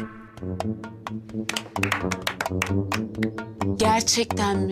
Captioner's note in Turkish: Alkış sesi